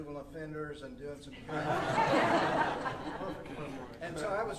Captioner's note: audience laughing